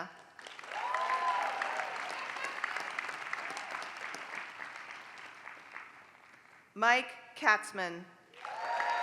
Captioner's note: applause; applause